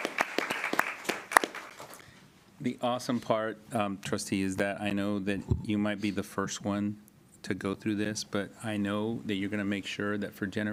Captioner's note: applause